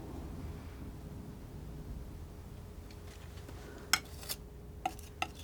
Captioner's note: tapping